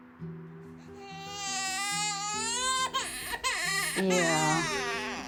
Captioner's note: baby crying